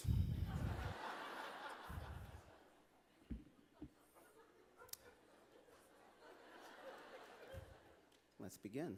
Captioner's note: laughter